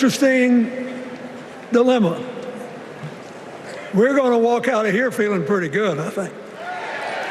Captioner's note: applause